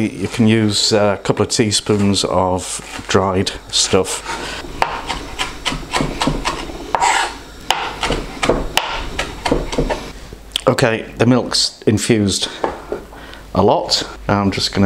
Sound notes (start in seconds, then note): 5.3 chop chop chop; 6.9 scrape; 8.4 chop chop chop